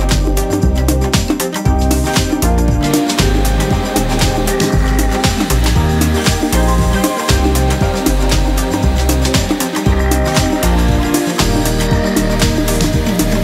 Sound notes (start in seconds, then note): 3.1 circular saw whirring